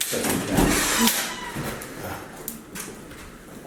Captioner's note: door opening